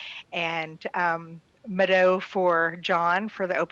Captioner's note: speaking in Native Language